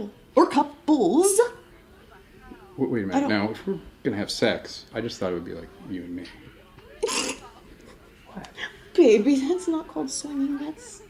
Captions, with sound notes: Or couples. Wait a minute, now if we're gonna have sex, I just thought it would be like you and me. (laughing) Baby, that's not called swimming, that's,